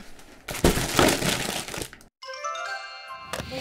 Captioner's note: packages clatter; bright jingle